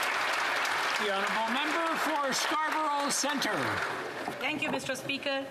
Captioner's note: applause